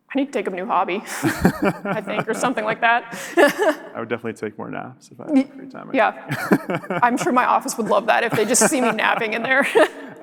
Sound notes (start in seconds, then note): 1.0 laughs